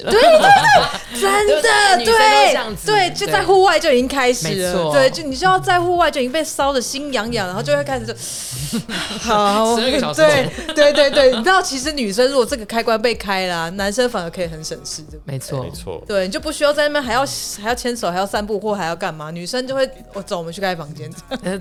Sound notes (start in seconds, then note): 8.2 deep breath